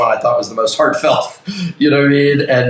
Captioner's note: chuckles